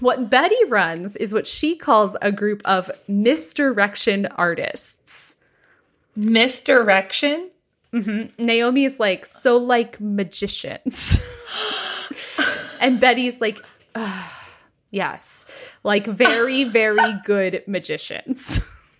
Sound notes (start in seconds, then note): 11.4 gasps; 13.9 sighs